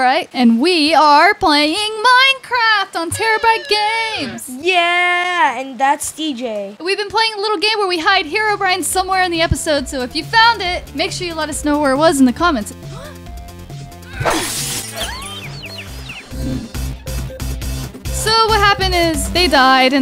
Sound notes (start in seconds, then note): 14.1 electric zapping; 14.2 glass breaking